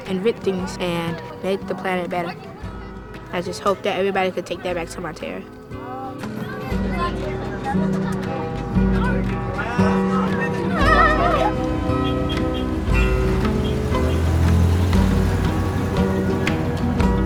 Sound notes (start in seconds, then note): 7.0 cheerful guitar music; 7.0 students chattering; 12.1 bus hooting; 14.1 bus engine roaring